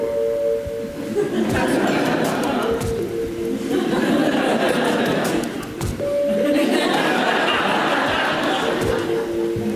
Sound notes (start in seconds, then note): 0.2 audience laughs